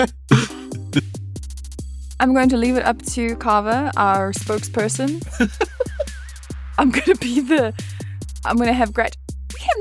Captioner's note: laughs